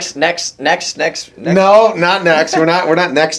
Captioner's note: laughs